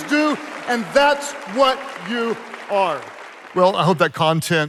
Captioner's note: audience applauding